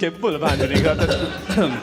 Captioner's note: coughs